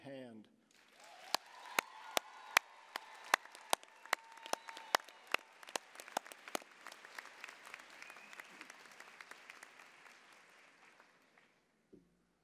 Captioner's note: applause, cheering